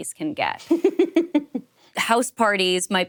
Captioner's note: laughing